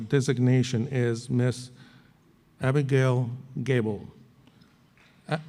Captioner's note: applause